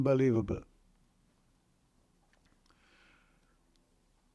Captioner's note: pauses 6 seconds